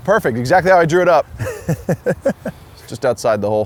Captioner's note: laughs